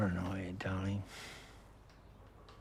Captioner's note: chuckles